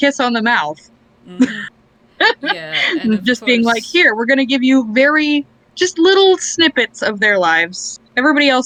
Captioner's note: laughs